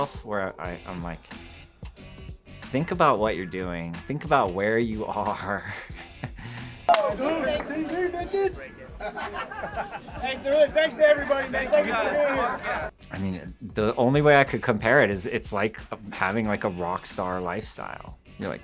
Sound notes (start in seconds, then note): 6.1 laughs; 8.9 crowd laughing